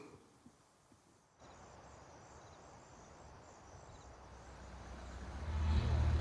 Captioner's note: insects chirping; wind whooshing; car engine rumbling